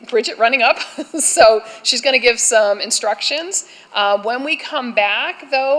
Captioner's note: laughter